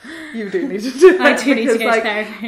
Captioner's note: laughs